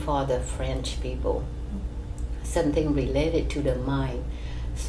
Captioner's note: none